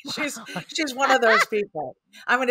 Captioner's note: laughs